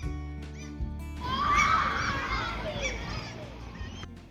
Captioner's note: scream